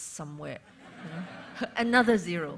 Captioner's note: laughter